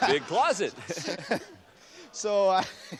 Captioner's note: chuckles